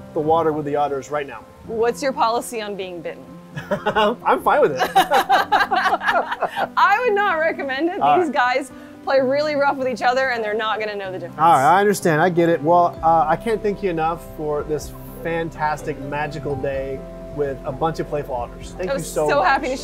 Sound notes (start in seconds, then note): 3.5 laughs